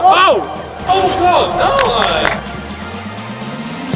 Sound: group chattering; upbeat music

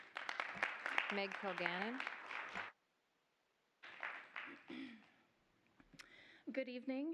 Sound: applause

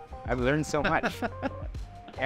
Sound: laughs

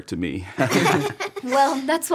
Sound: all laugh

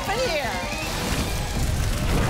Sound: audience applause

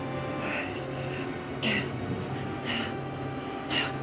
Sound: Alex shivering

